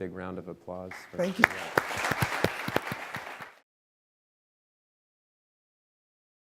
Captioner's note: audience applause